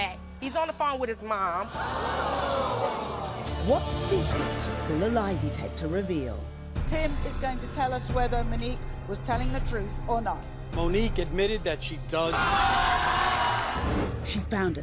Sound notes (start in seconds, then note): 1.6 audience gasps; 12.4 audience yells and gasps